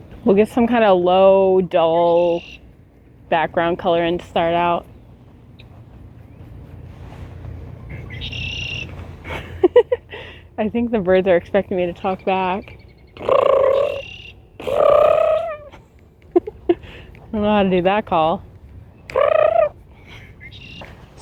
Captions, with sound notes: We'll get some kind of low dull background color in to start out. I think the birds are expecting me to talk back. *attempts red-winged blackbird call* I don't know how to do that call.